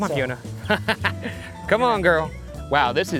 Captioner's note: laughs